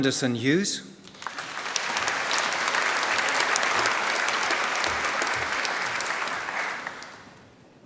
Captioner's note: applause